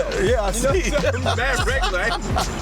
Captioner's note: laughs